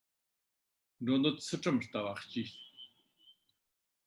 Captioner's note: tibetan